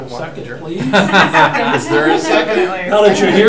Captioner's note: group laughing